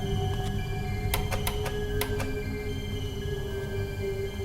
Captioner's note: clicking